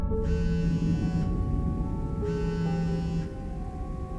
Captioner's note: soft music; phone buzzing